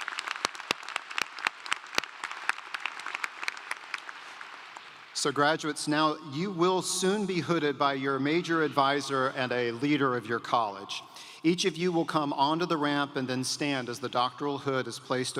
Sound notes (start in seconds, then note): 5.6 applause